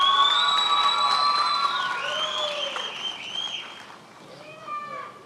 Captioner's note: attendees applauding and cheering